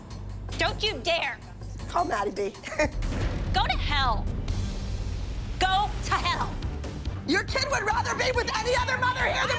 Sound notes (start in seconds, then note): 2.6 chuckles